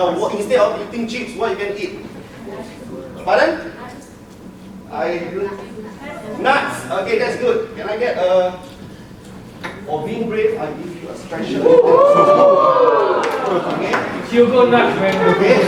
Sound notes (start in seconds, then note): 11.4 audience cheering